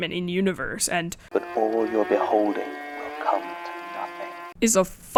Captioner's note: playing audio from podcast